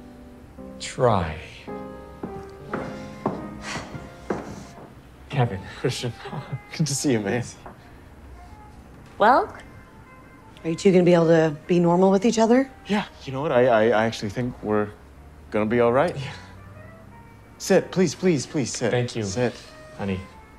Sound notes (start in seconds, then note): 2.8 Kevin's Wife sighs